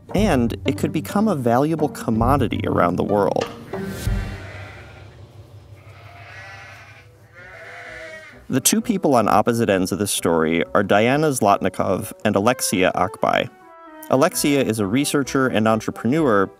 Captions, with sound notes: and it could become a valuable commodity around the world. (sheep bleating) The two people on opposite ends of this story are Diana Zlotnikov and Alexia Akbay. Alexia is a researcher and entrepreneur